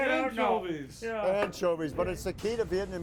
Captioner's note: food sizzling